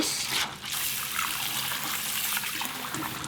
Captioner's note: water running